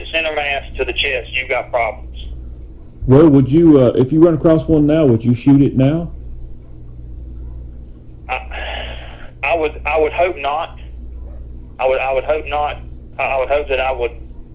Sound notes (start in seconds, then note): 8.4 sighs